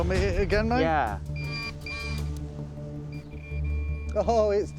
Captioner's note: beeping